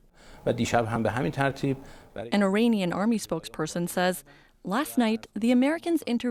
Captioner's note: speaking alternate language